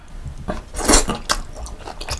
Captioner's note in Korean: 냠냠